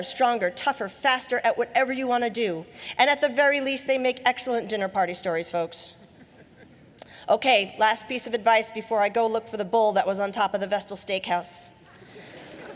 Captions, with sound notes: at whatever you want to do. And, at the very least, they make excellent dinner party stories, folks. Okay. Last piece of advice before I go look for the bull that was on top of the Vestal Steakhouse. (Laughing)